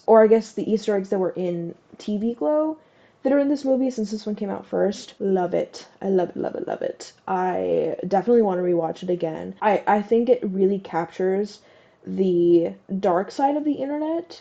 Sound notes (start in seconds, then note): none